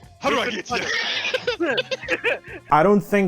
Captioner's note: laughing